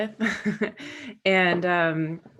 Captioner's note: Megan laughing